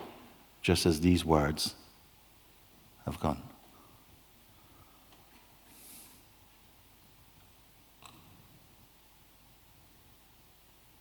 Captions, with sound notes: Just as these words have gone! [Silence]